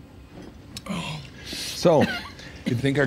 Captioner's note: Frank moans; Gene groans, coughs